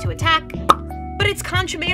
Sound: pop

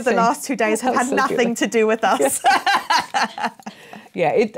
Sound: laughs

